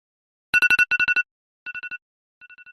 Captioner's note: alarm sound